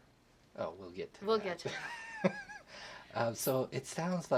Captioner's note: laugh